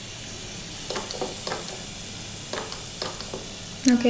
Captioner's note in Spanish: sonido dispensador jabón